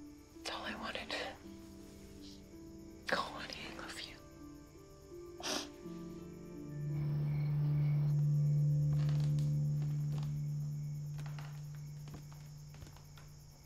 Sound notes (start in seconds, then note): 5.4 sniffling